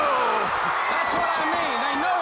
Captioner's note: crowd cheering